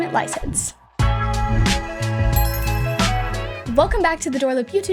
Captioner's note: bells chiming; upbeat music